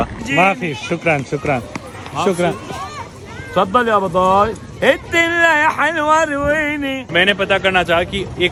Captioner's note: speaking arabic